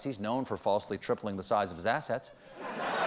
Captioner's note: laughter